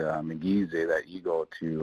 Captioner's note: speaking in foreign language